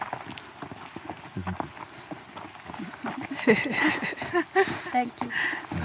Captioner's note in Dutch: gelach